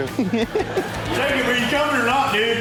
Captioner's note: chuckles